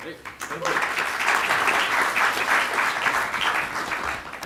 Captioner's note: audience Clapping